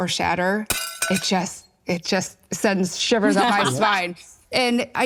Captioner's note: plate shattered